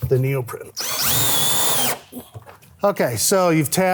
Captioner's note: tool whirring